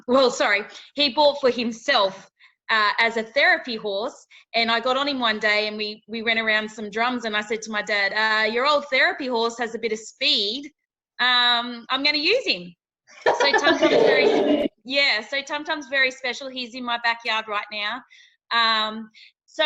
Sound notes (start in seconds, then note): 13.2 laughing